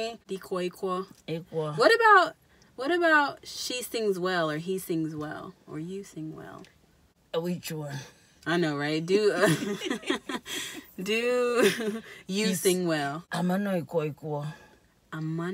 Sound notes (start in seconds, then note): 9.4 laughs